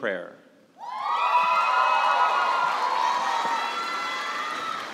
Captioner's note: cheers and applause